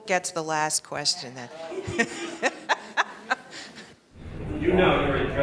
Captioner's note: laughing